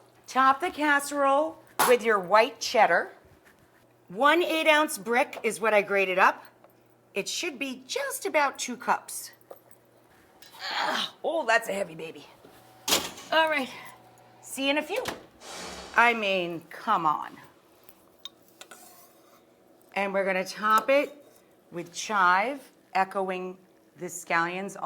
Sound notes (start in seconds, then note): 10.7 grunts; 12.8 metal rack clanks; 15.4 air whooshes